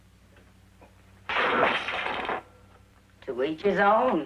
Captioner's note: loud crashing